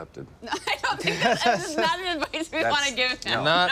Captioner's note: laughter